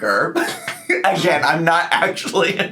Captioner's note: laughing